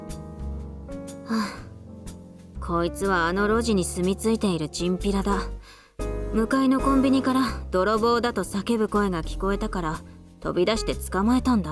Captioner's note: sigh